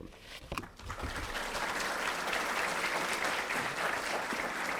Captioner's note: audience applauds